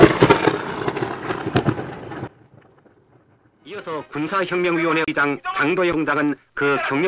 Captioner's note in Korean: 라디오 방송 소리